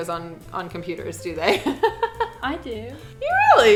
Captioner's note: laughs